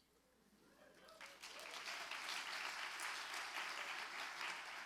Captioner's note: audience applauds